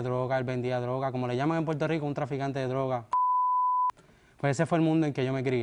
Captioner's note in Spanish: Bip